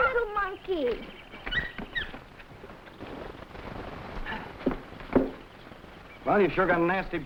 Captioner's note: footsteps rustling; monkey chattering